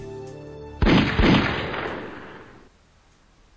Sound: gun Shots

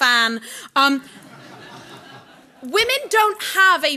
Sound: audience laughing

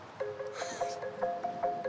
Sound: chuckles; gasps

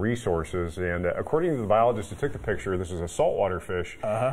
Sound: laughter

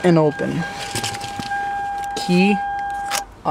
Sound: car beeping

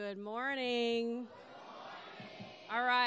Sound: crowd

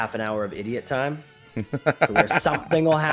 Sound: laugh

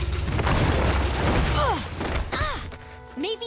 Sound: groaning

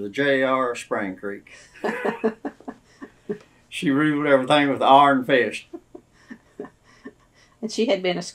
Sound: laughter; laughs

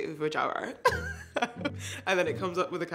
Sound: laughs

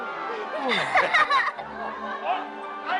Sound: kids laugh

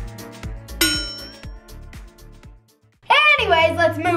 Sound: loud chime

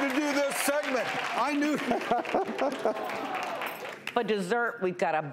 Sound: laughing

